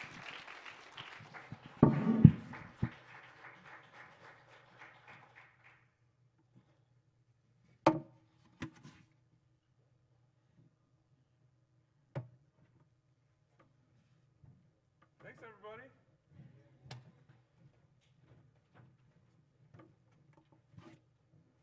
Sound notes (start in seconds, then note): 0.0 applause; 9.2 silence